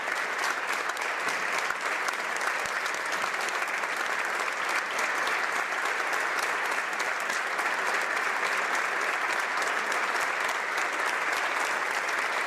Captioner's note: applause